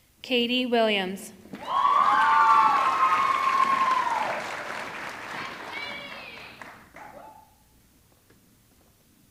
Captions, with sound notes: Katie Williams, (audience clapping) (audience cheering)